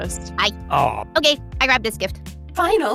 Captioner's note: groans